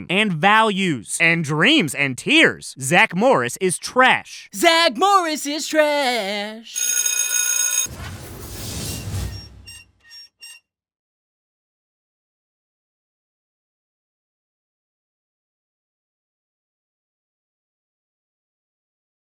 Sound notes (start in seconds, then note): 6.7 bell ringing